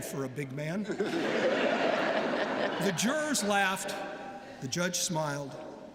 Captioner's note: laughter